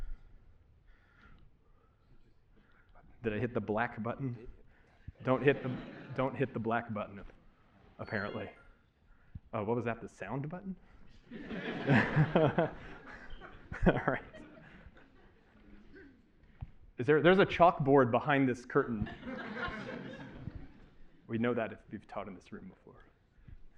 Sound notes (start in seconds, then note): 8.5 chime; 11.2 laughter